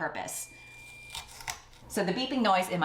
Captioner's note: beeping noise